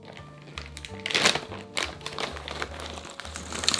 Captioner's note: plastic bag rustling; nuts dropping